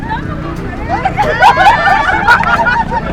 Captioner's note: laughs